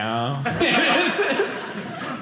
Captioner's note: audience laughing